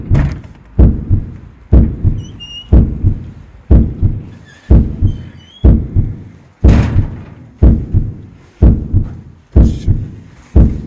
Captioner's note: heartbeat